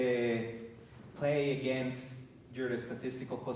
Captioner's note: none